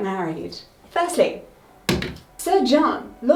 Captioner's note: pointer thuds